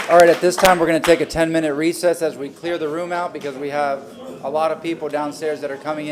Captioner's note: applause